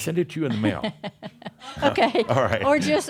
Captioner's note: chuckles; chuckling